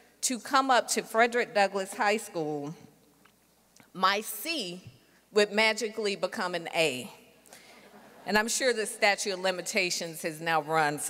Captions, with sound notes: to come up to Frederick Douglass High School, my C would magically become an A. (audience laughing softly) And I'm sure the statute of limitations has now run,